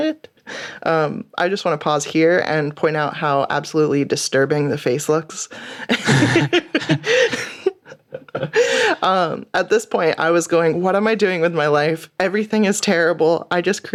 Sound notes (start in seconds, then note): 5.9 laughter